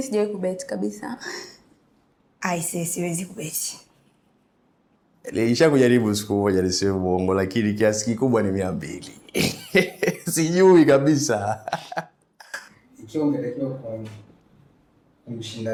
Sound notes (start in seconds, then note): 11.2 laughs